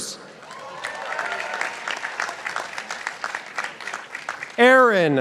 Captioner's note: participants applauding